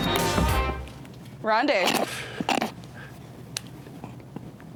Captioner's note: buzzer beeps; lively music; snorts